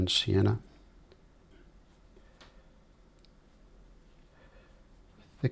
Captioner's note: silence